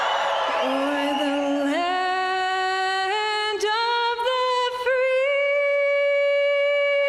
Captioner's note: crowd cheering; crowd cheering